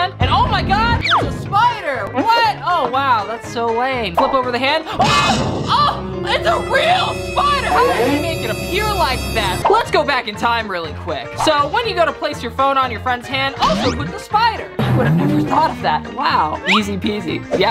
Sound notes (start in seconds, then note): 5.0 screams